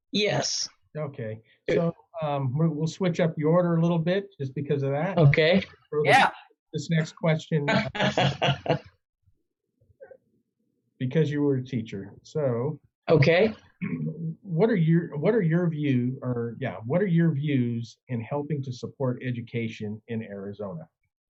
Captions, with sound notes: - Yes. - We'll switch up your order a little bit just because of that. This next question, (laughing) because you were a teacher. What are your views in helping to support education in Arizona?